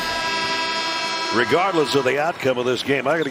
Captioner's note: buzzer